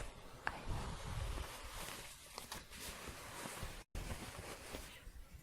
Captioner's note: shuffling